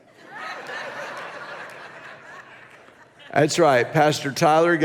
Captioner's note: congregation laughs